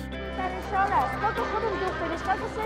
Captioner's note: speaking non-English